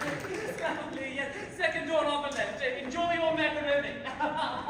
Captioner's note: applause; GIUSEPPE babbles; laughs nervously